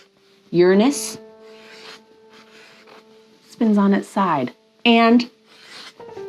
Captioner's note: pen scribbling